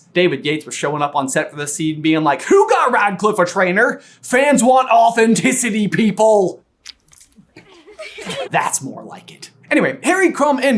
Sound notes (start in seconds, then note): 6.7 splurts; 7.4 girls giggling